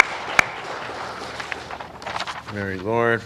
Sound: applause

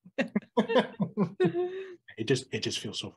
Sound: laughter

